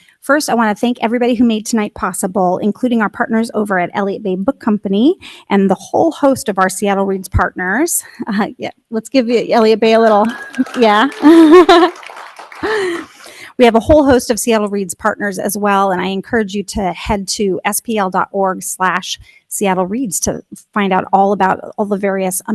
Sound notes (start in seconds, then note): 10.1 laughs; 11.7 audience laughing